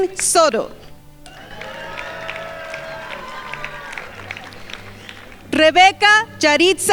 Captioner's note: crowd applauding